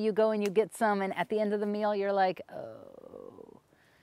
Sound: groans

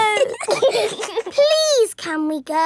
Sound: giggling

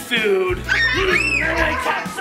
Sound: kids scream

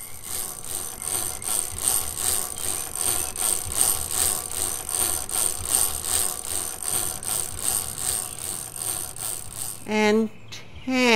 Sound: chain cranking

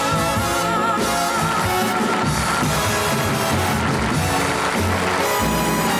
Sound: audience applauding

